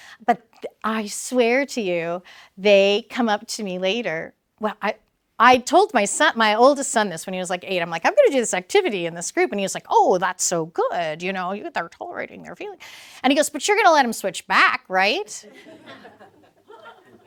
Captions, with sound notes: But I swear to you, they come up to me later. Well, I told my oldest son this when he was eight, I'm like, I'm gonna do this activity in this group, and he was like, that's so good. You know, you get that toll rating, you're feeling. And he goes, but you're gonna let him switch back, right? [LAUGH]